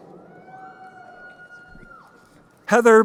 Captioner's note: crowd cheering